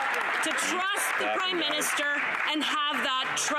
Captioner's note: some Applause